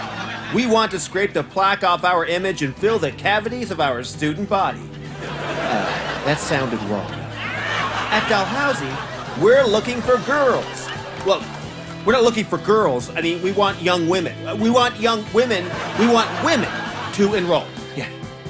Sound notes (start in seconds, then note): 0.0 audience laughter immediately; 4.9 audience laughs throughout